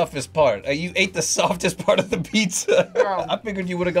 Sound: laughs

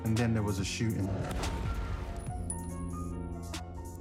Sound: gunshot

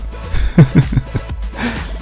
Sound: laugh

